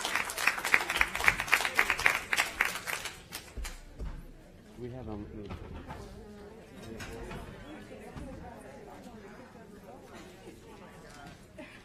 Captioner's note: applause